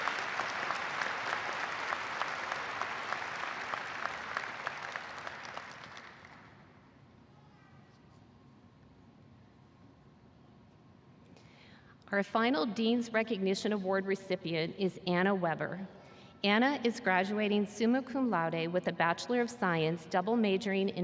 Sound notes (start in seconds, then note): 3.9 cheers and applause